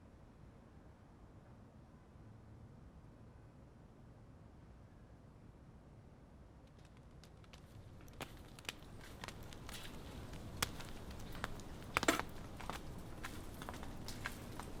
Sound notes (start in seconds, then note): none